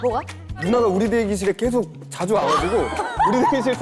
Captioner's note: laughing